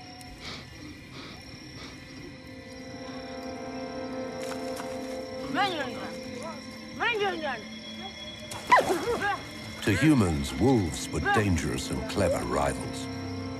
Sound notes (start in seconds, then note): 5.8 dramatic music; 9.0 wolf whimpering